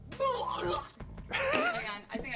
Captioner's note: laughs; gags